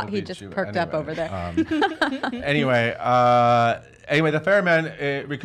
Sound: everyone laughing

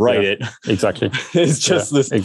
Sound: laughs

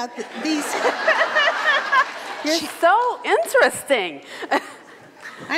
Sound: laughs

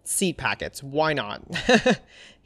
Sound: laughs

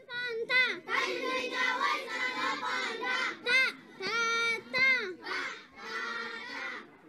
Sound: children's voices chanting

